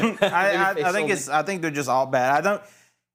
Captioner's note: laughing